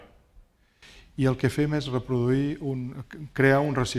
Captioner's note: speaking spanish